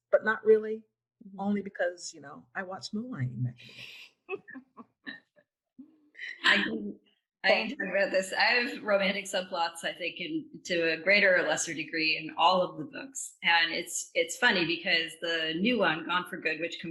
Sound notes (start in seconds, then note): 4.3 laughing